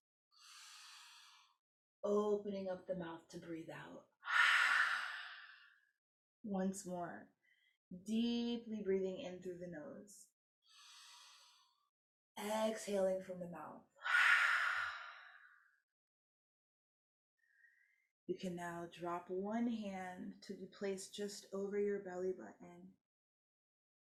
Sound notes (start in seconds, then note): 0.4 inhaling deeply; 4.3 exhaling deeply; 10.7 inhaling deeply; 14.1 exhaling deeply